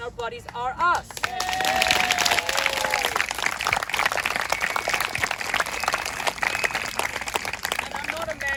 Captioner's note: applause